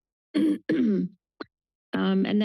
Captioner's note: clears throat